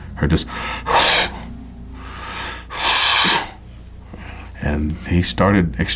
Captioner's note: huffing sounds